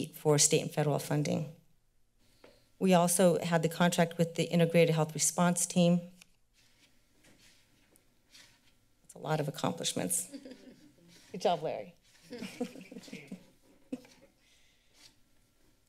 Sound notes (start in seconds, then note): 10.2 laughter; 12.2 laughter